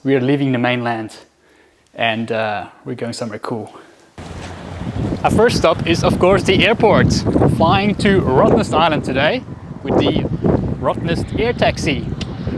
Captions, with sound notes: we are leaving the mainland. And we're going somewhere cool. (airplane roaring) Our first stop is of course the airport, flying to Rottnest Island today, with the Rottnest Air Taxi.